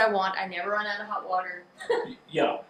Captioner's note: laughs